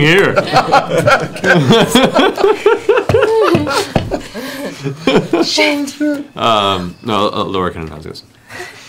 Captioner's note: laughter